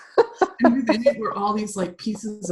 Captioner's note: laughing